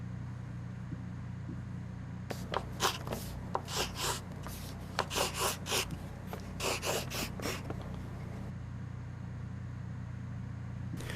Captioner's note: pen scribbling